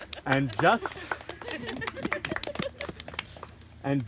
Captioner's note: audience laughs